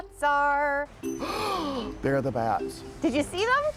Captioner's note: gasps